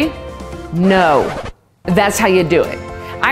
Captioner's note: record needle scratching